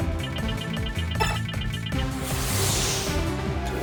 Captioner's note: timer beeping